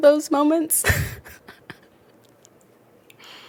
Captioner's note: laughs